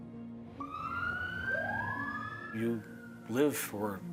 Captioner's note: sirens wailing